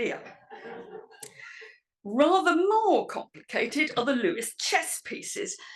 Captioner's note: laugh